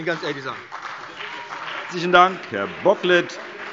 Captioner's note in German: Beifall BÜNDNIS 90/DIE GRÜNEN und CDU